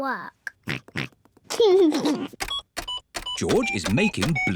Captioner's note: computer beeping; oinks and giggles